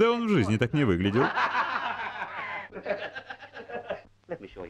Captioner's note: laughing